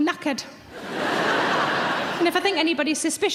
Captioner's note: audience laughs